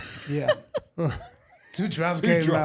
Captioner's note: laughing